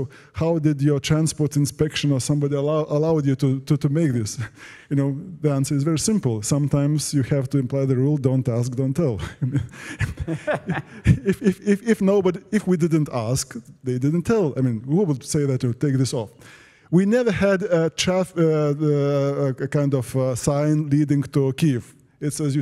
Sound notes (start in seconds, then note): 9.2 laugh